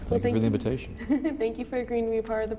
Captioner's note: laughs